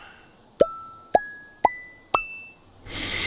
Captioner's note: exhale; ascending pop dings; inhale